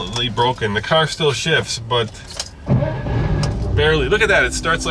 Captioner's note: engine starts